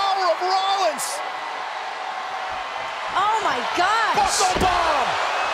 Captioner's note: applause